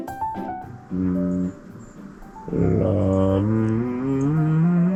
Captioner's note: slightly relaxing his throat